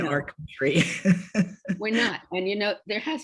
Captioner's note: laughs